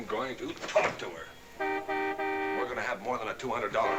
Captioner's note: car honking